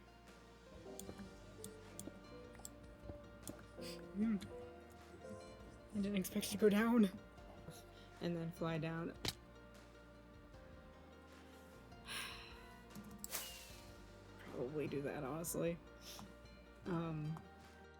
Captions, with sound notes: (fear noises) I didn't expect to go down! ...and then fly down. (sigh) ...probably do that, honestly. Um,